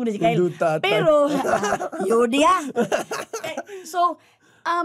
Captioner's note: chuckles